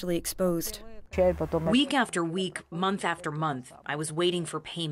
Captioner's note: through translator